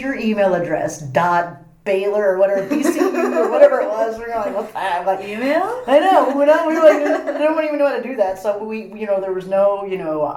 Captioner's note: all laugh